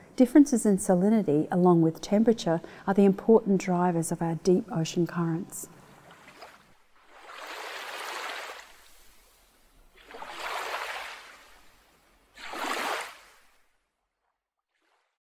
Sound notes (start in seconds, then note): 6.0 splashing water